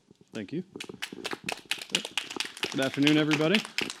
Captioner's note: applause